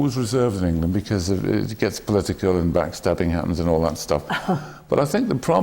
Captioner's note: laughs